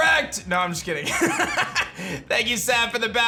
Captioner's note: laughs